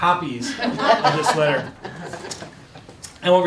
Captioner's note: laughing